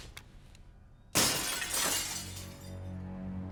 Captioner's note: click; glass shatters; dark brooding music